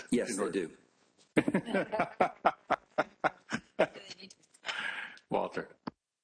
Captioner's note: laughter